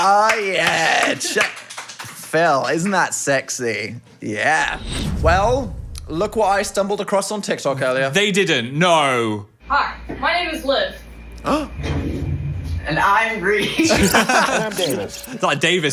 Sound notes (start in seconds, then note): 0.0 claps; 11.4 gasps; 13.6 hosts laughing